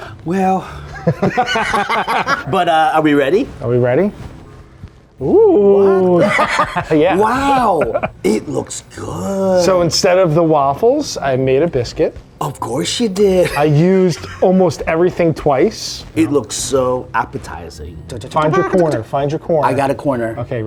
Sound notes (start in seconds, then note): 0.9 both laughing; 6.0 both laughing